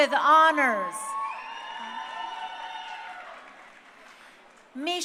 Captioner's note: crowd cheering